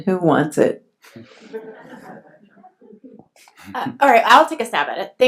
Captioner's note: laughs